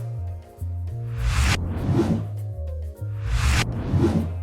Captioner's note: air whooshes